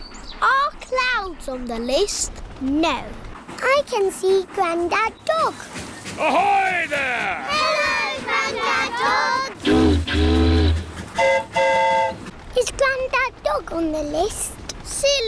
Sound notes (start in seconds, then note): 9.6 train horn toots; 11.1 boat horn honks